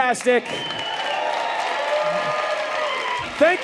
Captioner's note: audience cheering